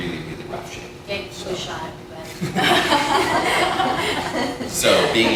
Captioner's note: laughter